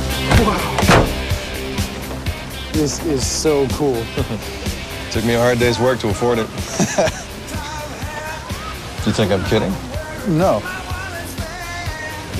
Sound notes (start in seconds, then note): 5.5 laughs